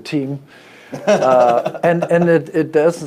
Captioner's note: laughing